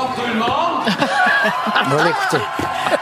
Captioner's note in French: rires